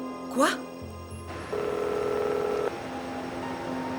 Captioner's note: phone ringing